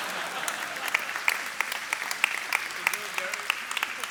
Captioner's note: laughter; applause